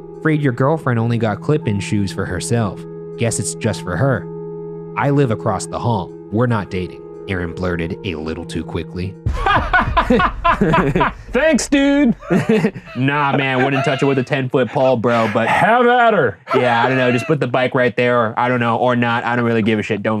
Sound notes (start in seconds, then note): 9.3 Shane laughing; 16.5 laughing